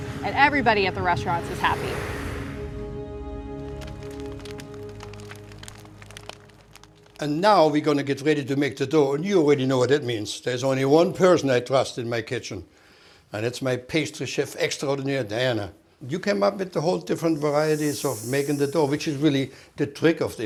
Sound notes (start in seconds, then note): 3.2 fire crackling